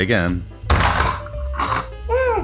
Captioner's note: bonk!